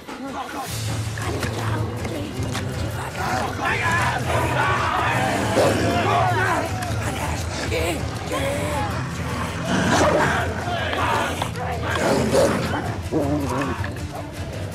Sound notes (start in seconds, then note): 0.1 dogs panting; 3.9 growling; 3.9 shouting